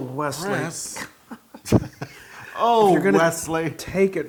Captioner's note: laugh